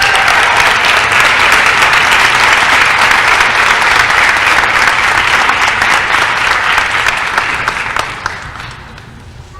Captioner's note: applause & cheering